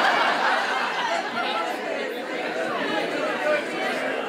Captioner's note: crowd